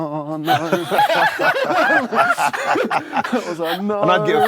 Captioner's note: laughter